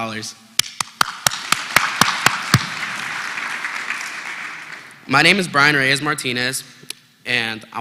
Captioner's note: applause